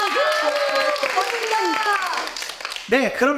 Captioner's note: applause